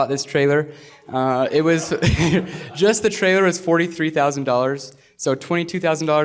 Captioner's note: laughter